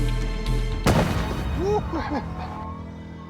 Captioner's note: ball whistling